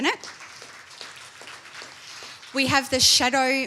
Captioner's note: applause